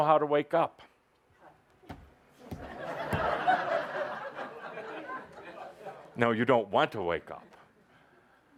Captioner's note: laughter as he pretends to bang his head on the chair